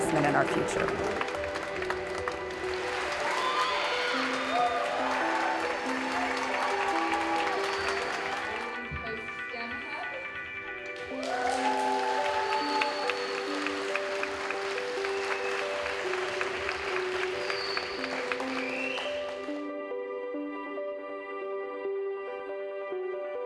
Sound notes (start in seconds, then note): 2.5 cheering